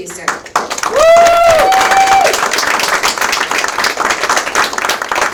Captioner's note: audience applauds and cheers